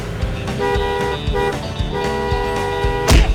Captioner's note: horn honking